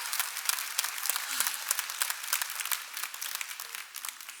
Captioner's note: cheers and applause